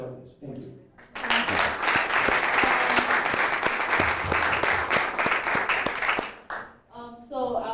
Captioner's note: applause